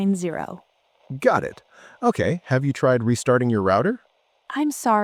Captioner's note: tech support voice